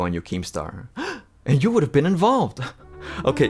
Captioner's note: gasps